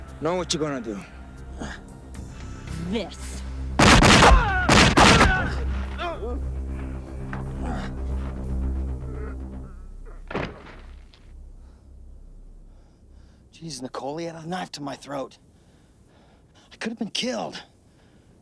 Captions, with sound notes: - Now what you gonna do? - This. (gunshots popping) (Pico groaning) - Jeez, Nicole, he had a knife to my throat. I could've been killed.